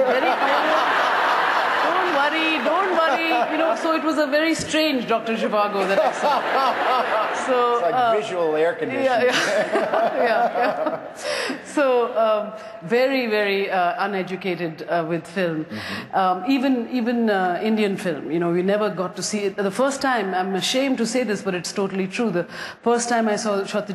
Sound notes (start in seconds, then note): 0.0 laughter; 9.2 laughter